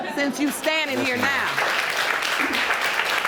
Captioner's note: audience laughing; audience applauding